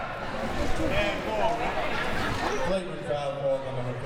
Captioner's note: audience chattering